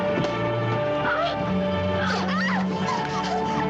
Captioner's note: Irina screaming